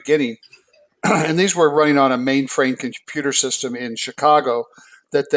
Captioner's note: cough